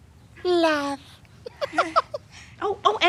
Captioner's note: laughs